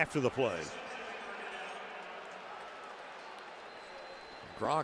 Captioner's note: pa announcement